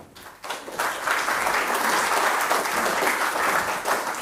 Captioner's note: audience applauding